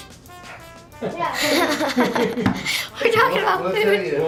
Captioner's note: laughs